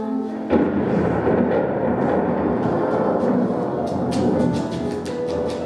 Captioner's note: thunderclap